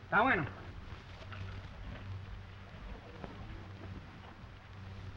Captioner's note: speaking in foreign language